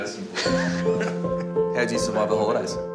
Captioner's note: both laugh